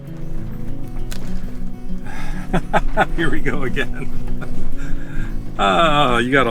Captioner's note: laughter